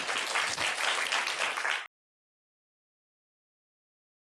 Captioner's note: applause